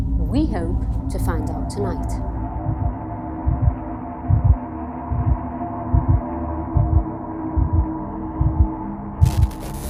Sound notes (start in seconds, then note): 2.7 eerie music; 4.1 heartbeat